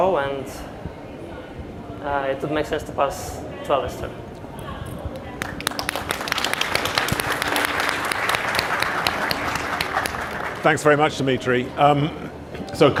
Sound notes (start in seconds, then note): 5.4 audience applause